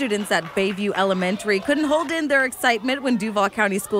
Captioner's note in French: applause